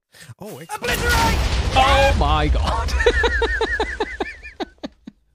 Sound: laughs

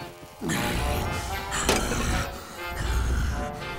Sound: heavy breathing

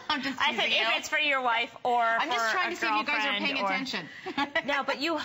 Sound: laughter

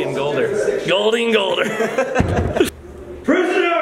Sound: laughs

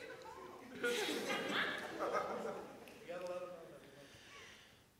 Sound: audience laughs

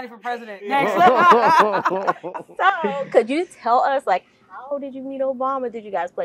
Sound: laugh

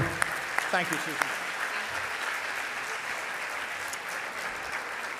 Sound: audience applauding

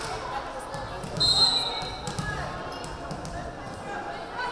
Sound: whistle blaring

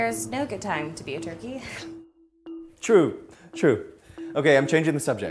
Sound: giggles

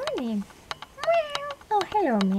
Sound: cat meows

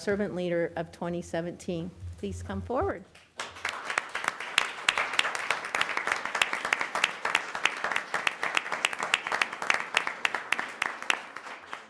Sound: applause

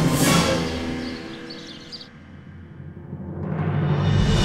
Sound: birds chirping

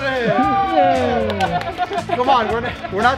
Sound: cheering

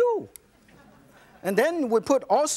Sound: audience laughs

